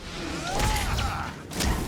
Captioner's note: gunshots